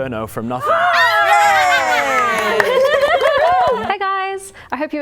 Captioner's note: laughing & cheering